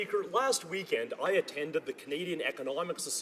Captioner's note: speaking French